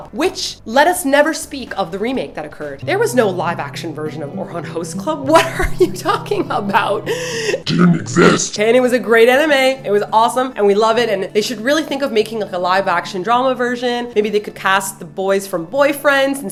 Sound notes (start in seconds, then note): 7.7 deep voice; 8.5 normal voice